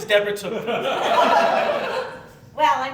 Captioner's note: laughter